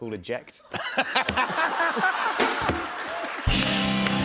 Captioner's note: laughter